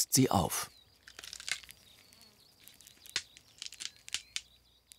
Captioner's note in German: Knackgeräusche